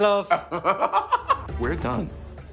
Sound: laughing

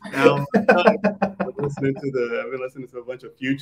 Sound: all laughing

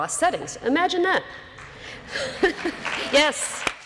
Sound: applause

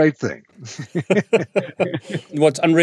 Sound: both laugh

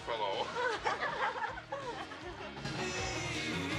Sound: giggling

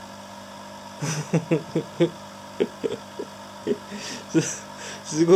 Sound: hehehehehe

